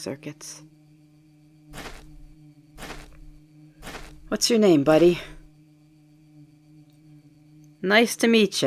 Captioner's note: footsteps